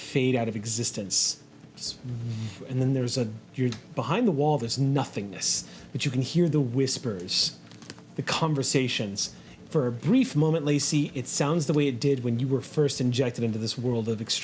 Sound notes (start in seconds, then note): 2.1 whooshes